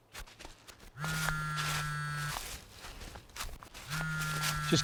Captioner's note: phone vibrating